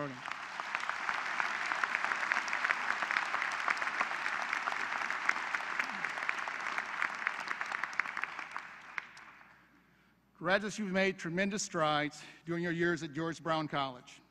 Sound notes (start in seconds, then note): 0.0 applause